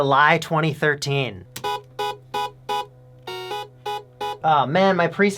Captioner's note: subdued beeps